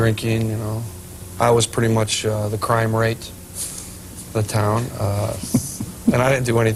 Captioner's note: laughter